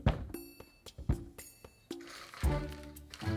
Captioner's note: food dropping